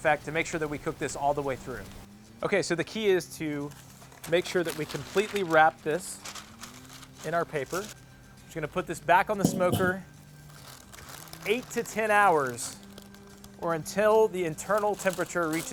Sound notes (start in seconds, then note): 6.1 rustling; 9.4 clattering